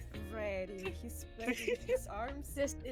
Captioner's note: laughs